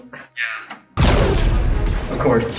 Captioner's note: explosion